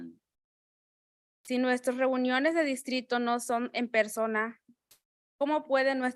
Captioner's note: speaking in Spanish